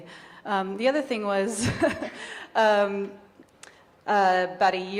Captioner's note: chuckles